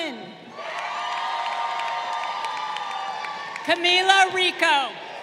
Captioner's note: crowd cheering